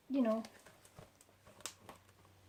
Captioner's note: opening book